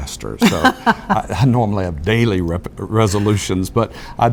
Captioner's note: laugh